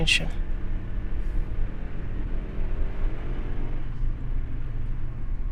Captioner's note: car engines revving